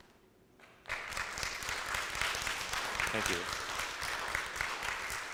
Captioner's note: audience applauds